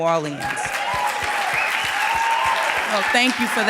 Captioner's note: audience cheering and applauding